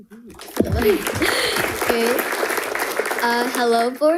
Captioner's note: audience applauding